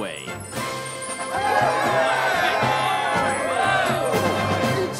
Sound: cheering

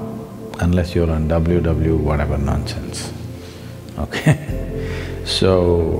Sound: laughs

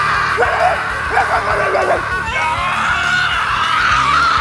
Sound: barking

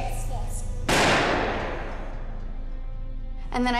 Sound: gun shot

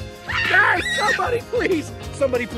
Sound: screaming

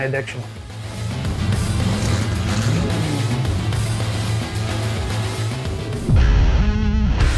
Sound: rock music; car engine roaring

